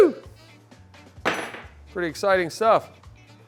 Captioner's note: tool clanks on table